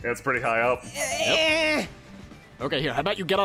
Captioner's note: stretching noises